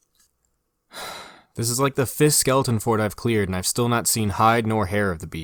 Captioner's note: sigh